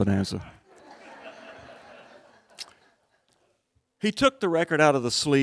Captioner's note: crowd laughing